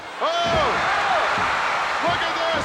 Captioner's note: audience cheering